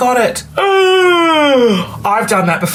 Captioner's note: gasps